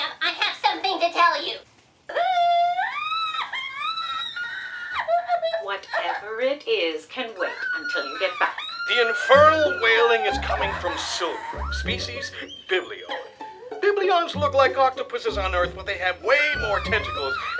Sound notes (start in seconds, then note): 2.2 wailing cries; 8.0 screwball music playing